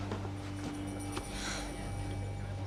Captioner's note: exhales